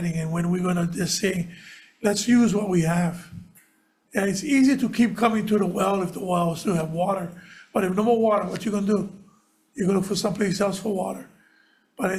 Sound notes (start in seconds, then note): none